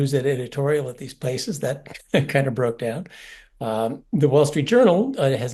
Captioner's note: laugh